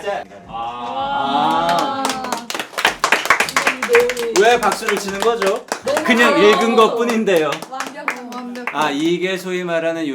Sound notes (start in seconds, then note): 2.5 applause for reading